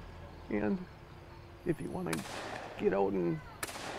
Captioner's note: gun blasting